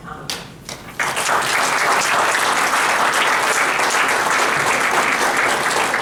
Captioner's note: applause